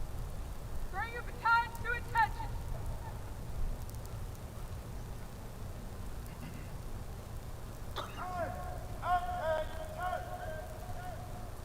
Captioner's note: shouted commands